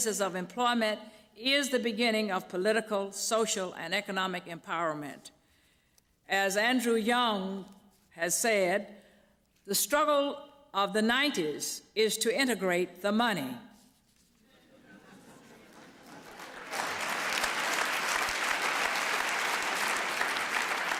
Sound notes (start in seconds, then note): 14.5 laughter; 15.5 applause